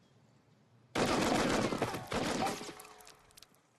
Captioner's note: machine gun fires